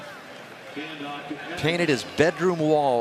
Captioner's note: pa announcement